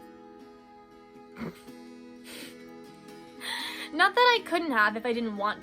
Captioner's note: laughs